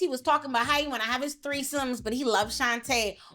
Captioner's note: none